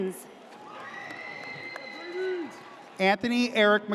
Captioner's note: audience cheers